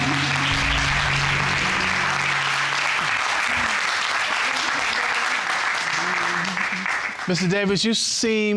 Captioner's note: audience clapping